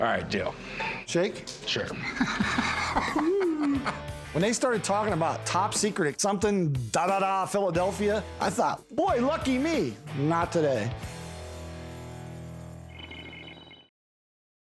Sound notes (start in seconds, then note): 1.9 laughter